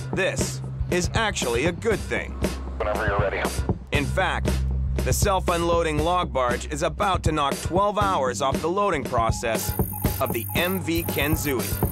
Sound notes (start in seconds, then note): 2.4 man Over Radio